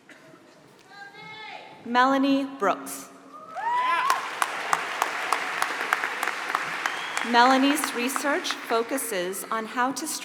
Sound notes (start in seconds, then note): 3.7 applause